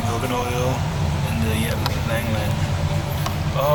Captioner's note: murmuring